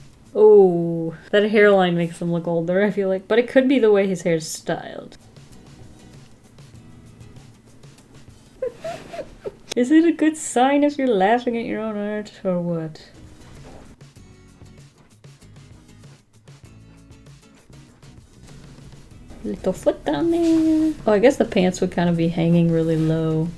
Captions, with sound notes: Oh that hairline makes him look older I feel like but it could be the way his hair is styled. [Laughs] Is it a good sign if you're laughing at your own art or what? Little foot down there. Oh I guess the pants would kind of be hanging really low